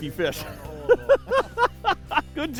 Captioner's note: laughs